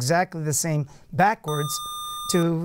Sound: buzzer

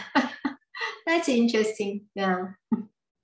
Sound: laughs

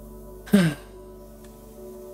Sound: sigh

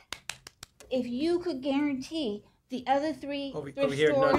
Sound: applause

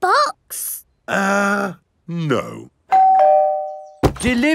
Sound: doorbell rings

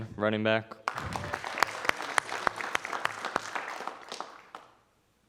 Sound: audience applauding

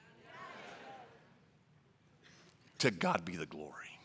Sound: crowd

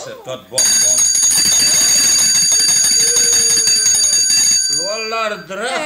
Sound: bell ringing loud

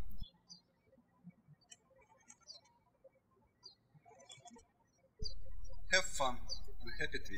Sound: birds chirping

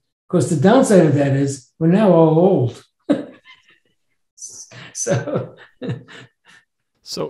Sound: laughs

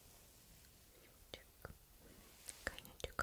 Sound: fire

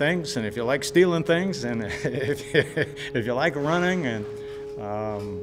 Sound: laughing

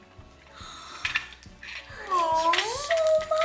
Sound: gasping

